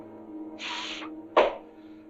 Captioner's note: exhales and claps